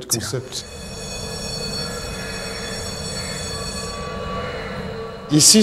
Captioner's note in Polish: dźwięk dzwonka